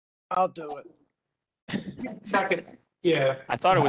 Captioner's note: laughter